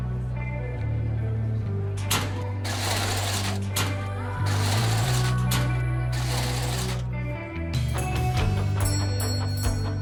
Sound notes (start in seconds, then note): 2.0 shutters rattling; 8.8 entry bell jangles